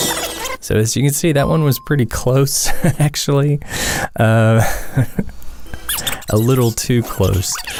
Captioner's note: haha